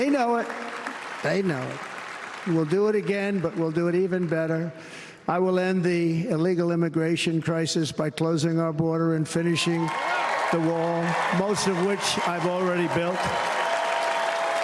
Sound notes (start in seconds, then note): 5.0 applause